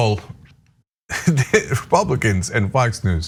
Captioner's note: laugh